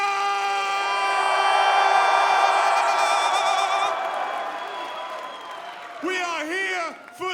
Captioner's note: cheers & applause